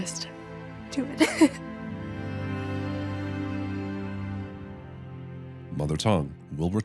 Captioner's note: laughs tearfully